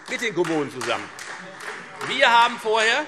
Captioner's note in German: Beifall Freie Demokraten